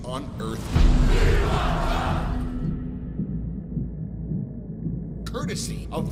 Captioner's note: chanting